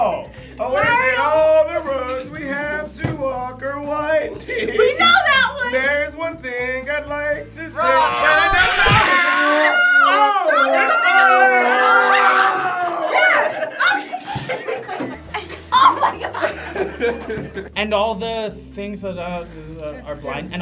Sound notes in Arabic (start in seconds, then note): 7.9 الجميع يصرخون; 19.5 تمتم